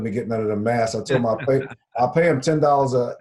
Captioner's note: laughs